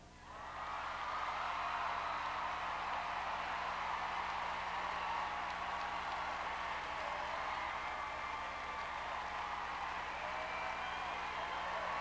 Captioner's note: crowd cheering